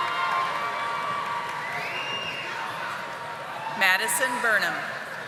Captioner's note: audience applauding